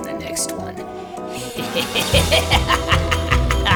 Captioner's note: laughter